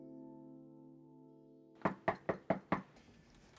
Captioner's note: knock on door